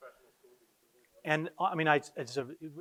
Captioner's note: quietly talking